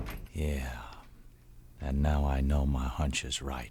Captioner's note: door closes